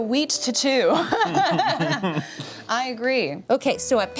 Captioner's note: laughs